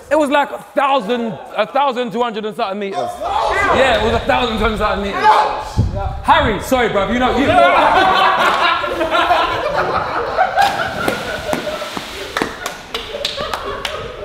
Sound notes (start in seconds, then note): 7.3 group laughs; 10.5 water splashes; 11.5 group laughs